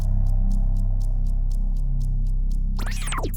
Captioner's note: clock ticking